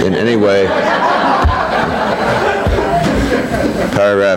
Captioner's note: people laughing